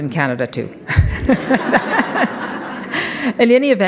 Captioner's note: audience laughs